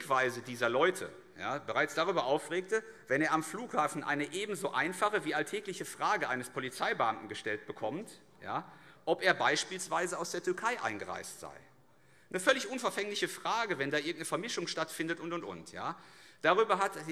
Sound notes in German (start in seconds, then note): none